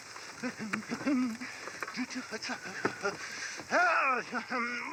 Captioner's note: straining and laughing; humming; painful straining